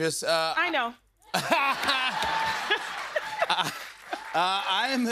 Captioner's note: laughs